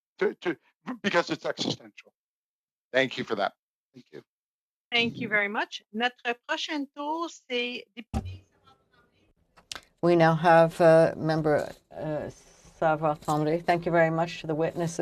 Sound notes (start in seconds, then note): 11.8 speaking French